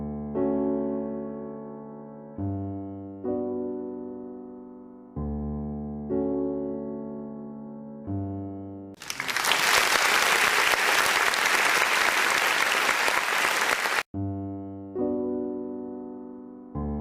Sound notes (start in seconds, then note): 0.0 piano music; 8.9 applause